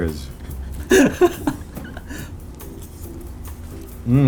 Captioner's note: laughs